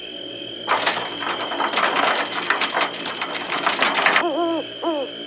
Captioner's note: wheelbarrow rolling; owl hoot